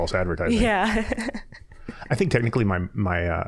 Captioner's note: chuckling